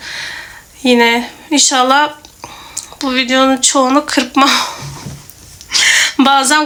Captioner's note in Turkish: iç çeker